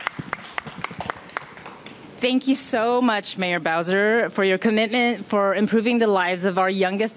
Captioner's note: applause